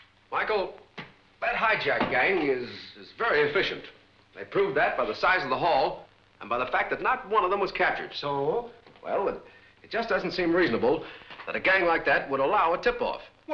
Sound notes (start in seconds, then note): none